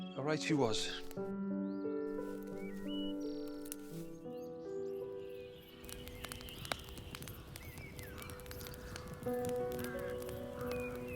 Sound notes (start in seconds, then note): 4.3 gentle orchestral music continues; 6.3 birds chirping